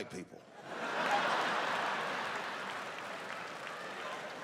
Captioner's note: audience laughing